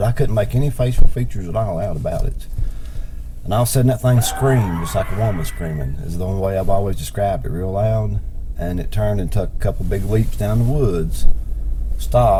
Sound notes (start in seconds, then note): 4.0 screams